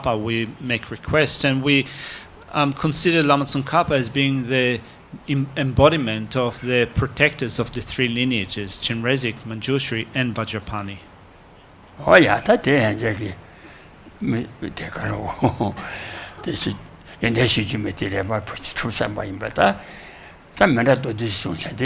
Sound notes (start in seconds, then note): 12.3 speaks foreign language